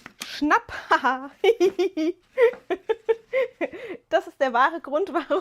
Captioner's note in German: gelächter